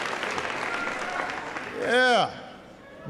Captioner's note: applause